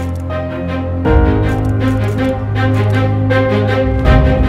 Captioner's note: Camera click